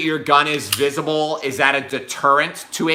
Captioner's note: gun clicks